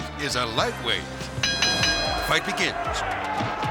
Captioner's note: bell rings